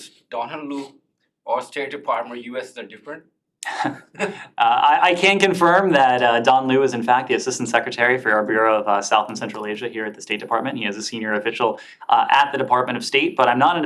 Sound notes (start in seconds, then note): 3.6 laughter